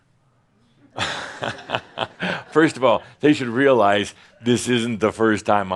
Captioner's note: chuckles